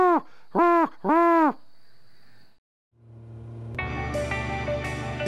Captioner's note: great horned owl hoot